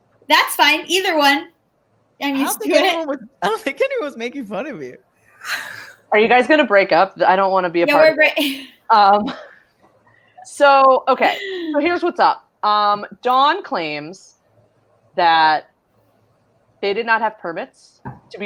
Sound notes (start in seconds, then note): 9.3 laughs